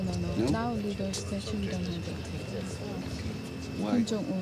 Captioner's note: speaks faintly